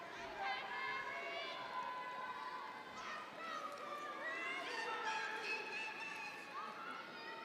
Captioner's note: students chattering and shouting